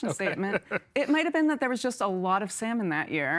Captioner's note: laughing